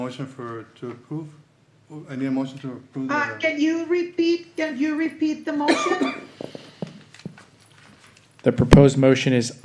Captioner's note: cough